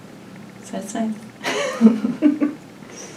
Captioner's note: laughs